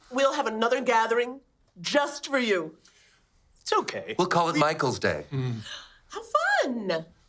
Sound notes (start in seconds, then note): 5.3 gasps